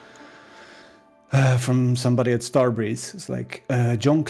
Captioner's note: deep breath